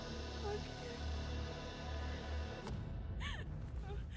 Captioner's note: weeping